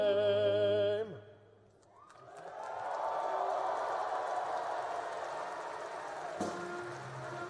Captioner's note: applause and cheering